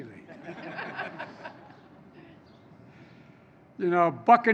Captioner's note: laughter